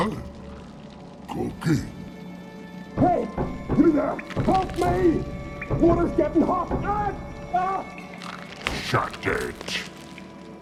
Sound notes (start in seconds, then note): 3.3 banging